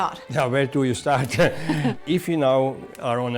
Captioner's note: laughs